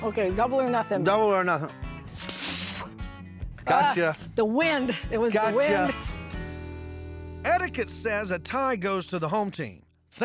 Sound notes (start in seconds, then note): 2.0 spitting